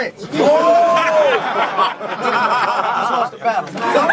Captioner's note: crowd Reaction